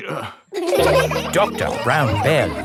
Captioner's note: all laughing